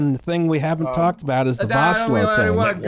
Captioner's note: belligerently